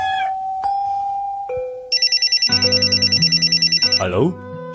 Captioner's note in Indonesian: lonceng